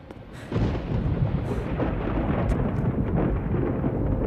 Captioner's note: thunder cracking